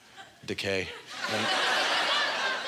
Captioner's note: audience laughter